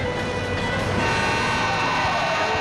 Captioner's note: horn honks